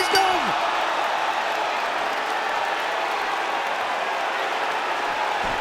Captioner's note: crowd shouts and cheers